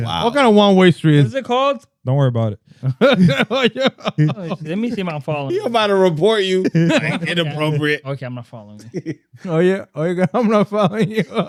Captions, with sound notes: What kind of one way street is this? Is it called? Don't worry about it. (Laughing) Let me see my phone. You about to report you, inappropriate. Okay, I'm not following you. Oh yeah, oh yeah, I'm not following you.